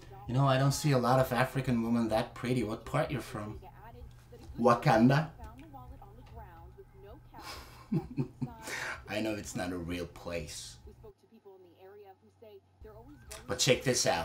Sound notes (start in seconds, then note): 7.4 laughter